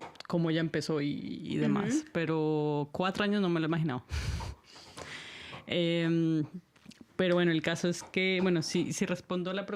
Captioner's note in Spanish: resoplido